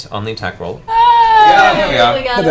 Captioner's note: all cheer